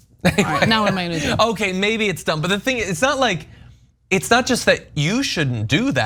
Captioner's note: laugh